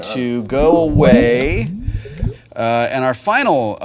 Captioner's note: water bubbling